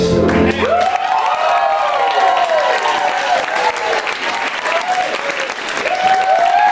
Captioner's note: applause